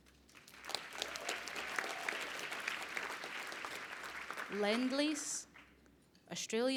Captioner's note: applause